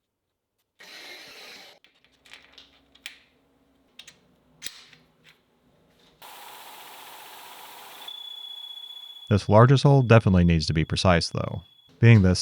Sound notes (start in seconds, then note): 2.1 metal clanking; 6.2 machinery whirring